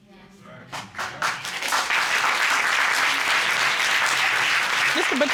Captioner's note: applause